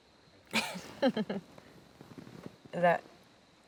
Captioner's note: Claire laughing